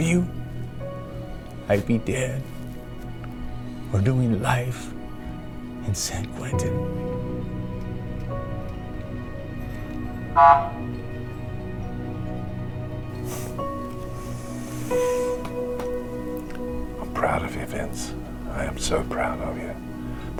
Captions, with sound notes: If it wasn't for you, I'd be dead, or doing life in San Quentin. (gentle music) (siren honks) (gentle music) - I'm proud of you, Vince, I am so proud of you.